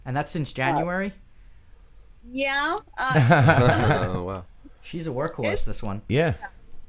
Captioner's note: laughter